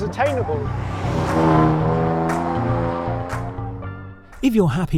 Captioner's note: engine roaring